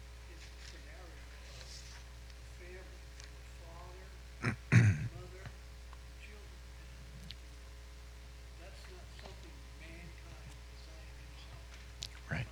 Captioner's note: man speaking off mic